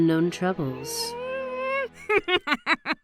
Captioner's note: goo whimpers; cabby laughs